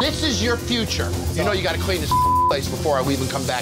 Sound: beep

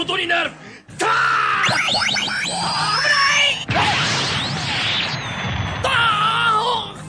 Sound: SFX: magic blast

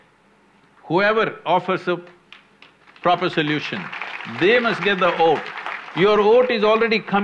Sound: applause

